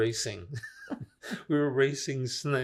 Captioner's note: laughing